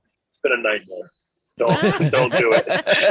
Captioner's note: laughter